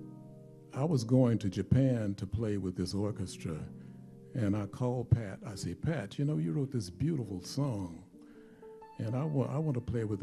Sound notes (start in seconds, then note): none